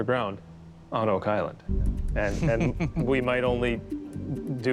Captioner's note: soft laughter